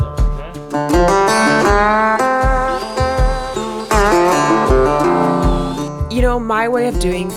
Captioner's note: gentle upbeat music; tools whirring